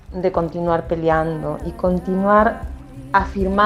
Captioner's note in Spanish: sonidos de agua y canto de mujeres